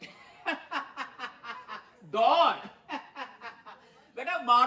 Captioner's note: laughing